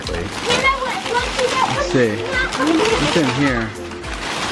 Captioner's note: kids shouting